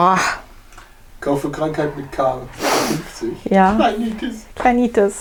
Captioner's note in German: Aus dem Off